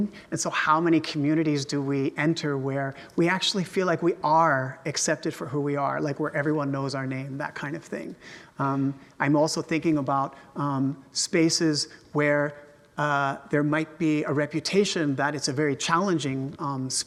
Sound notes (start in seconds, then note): none